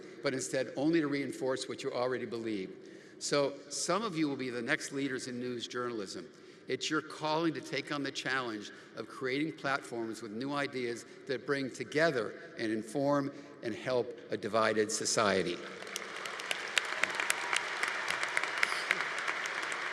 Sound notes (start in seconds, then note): 15.6 audience applauding